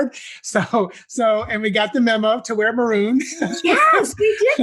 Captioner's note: laugh